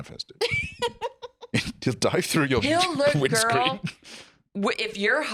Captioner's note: laughs